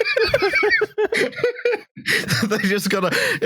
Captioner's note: laughter; laughs